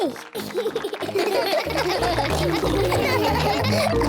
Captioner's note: all laugh